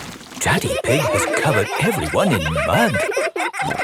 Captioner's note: all laughing